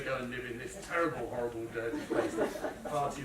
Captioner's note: laughter